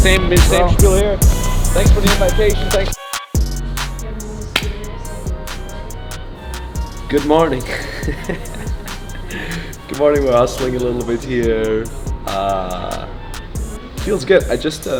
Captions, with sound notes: Thanks for the invitation, thanks. (claps) Good morning? (laughs) Good morning where I'll sling it a little bit here. Feels good.